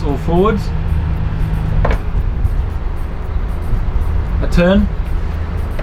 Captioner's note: engine revving